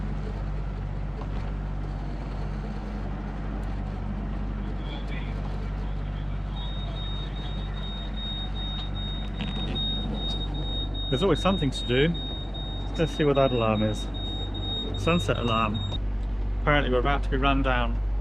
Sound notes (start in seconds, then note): 6.7 beeping noise